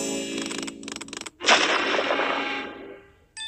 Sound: rumbling

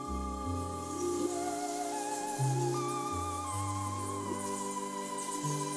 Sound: bats screeching

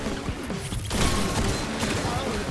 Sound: metallic ricochet

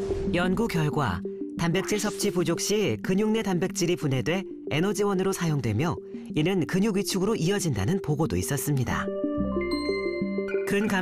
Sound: voiceover

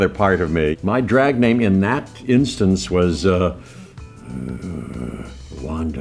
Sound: low growl

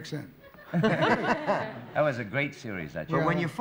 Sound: laughter

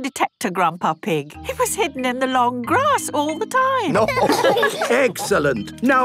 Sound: laughter

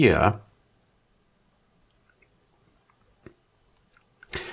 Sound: blank Audio

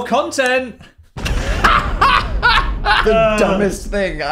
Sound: Dan laughs

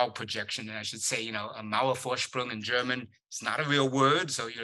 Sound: german

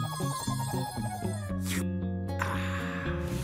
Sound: slurps, sighs

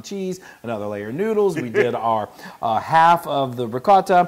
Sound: laugh

